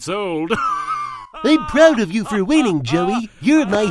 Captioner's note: Yami continues to laugh